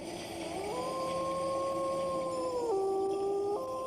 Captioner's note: wolf howling